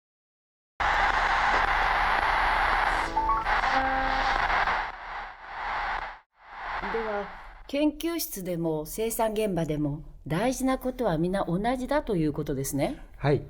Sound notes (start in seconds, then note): 0.8 when you turn on the radio